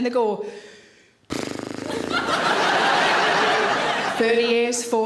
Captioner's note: exhaling and sputtering; audience laughing